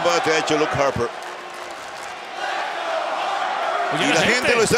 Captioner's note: applause